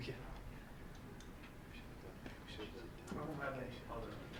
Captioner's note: whispering